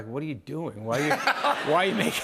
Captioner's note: laughter